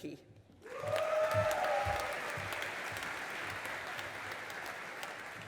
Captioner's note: audience applauding